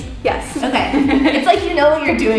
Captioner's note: giggles